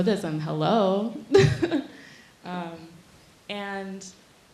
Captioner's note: laughing